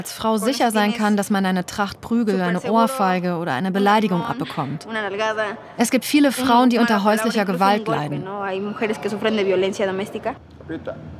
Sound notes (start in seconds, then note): none